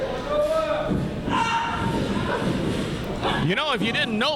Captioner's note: yelling